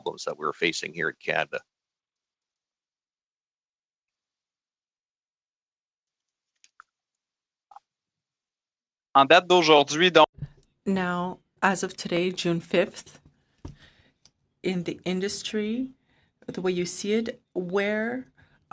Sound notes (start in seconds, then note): 12.0 speaking French